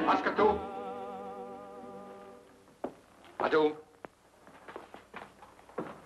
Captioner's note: speaks foreign language